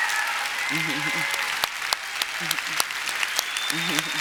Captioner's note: applause